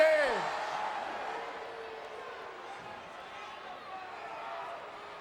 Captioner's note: crowd chattering